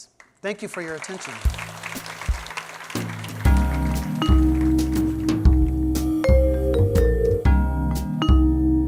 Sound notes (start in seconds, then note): 0.1 applause